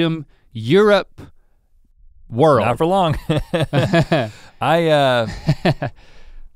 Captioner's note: chuckles